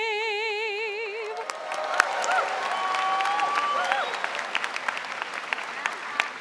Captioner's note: audience cheering and applauding